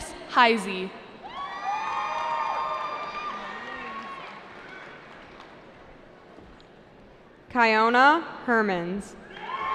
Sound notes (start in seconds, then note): 1.2 cheering